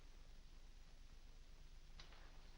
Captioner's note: none